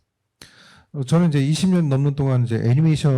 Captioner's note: speaking korean